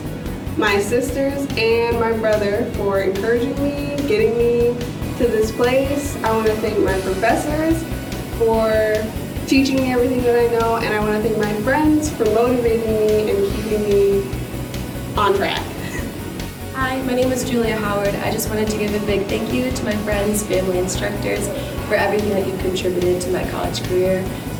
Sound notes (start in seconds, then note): 16.0 laughter